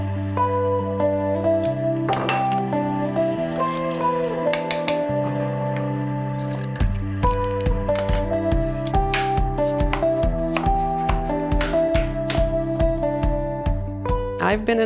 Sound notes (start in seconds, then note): 2.0 bottle clinks; 3.6 spoon taps; 8.6 knife chops; 12.4 meat sizzles